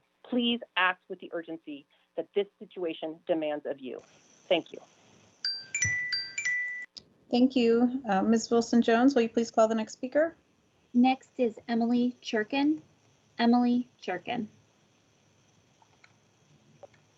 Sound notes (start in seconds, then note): 5.4 chime